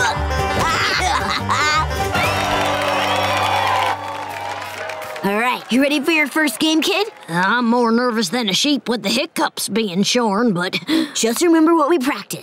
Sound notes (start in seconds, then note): 0.4 laughing; 2.0 cheering